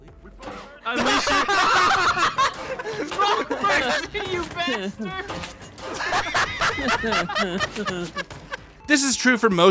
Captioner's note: maniacal laughter